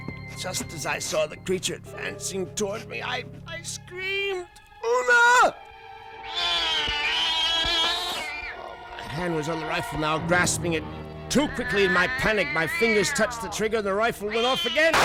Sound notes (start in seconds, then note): 6.2 cat yowling